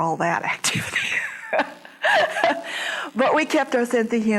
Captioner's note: laughs